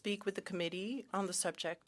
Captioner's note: speaking French